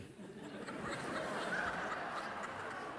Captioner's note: laughter from the audience